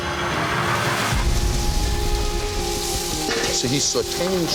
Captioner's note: food sizzling